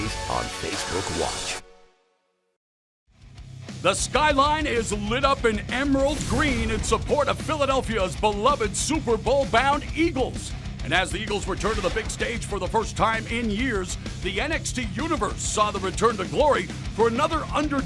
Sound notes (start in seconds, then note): none